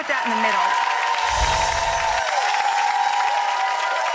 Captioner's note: audience applauding